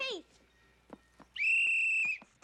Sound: whistles

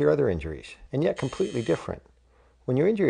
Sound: buzzer sound effect

